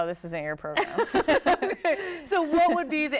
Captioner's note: laugh together